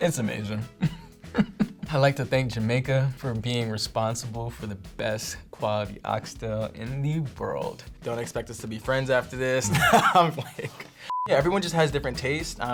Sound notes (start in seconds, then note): 0.8 chuckles; 9.6 laughs